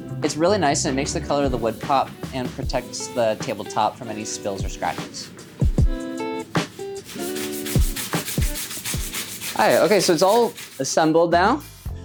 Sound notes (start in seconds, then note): 7.8 brush scratching